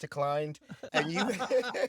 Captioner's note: laughter